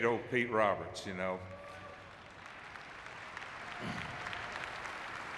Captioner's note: audience clapping